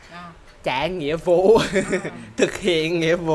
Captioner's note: laugh